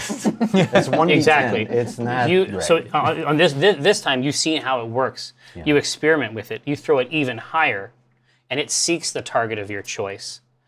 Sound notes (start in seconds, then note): 0.0 laughter; 3.2 stammers